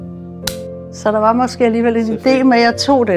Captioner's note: champagne popping